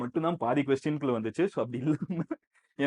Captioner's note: laughs